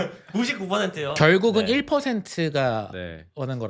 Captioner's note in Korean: 웃음